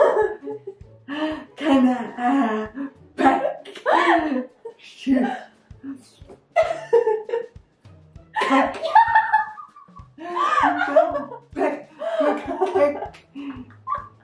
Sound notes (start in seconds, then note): 1.6 giggling; 8.3 laughing maniacally